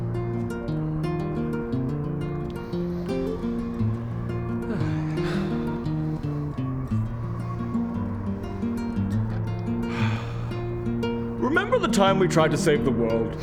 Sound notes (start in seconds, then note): 4.5 contented sighs